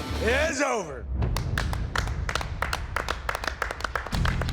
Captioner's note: applause